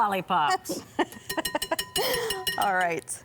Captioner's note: both Chuckling; whisk rattles